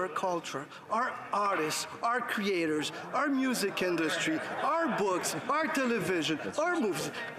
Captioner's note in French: voix de l'interprète